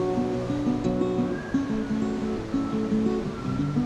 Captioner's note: soft music; waves crashing